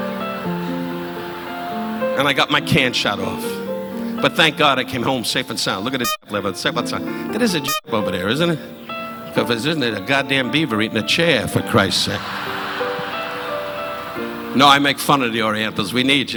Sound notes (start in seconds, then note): 0.0 audience laughing